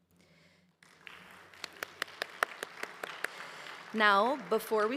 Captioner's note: audience applauds